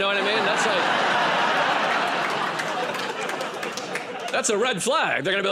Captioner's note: laughter and applause